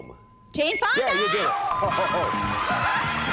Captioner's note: laughs